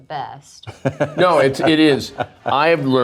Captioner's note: Steve laughs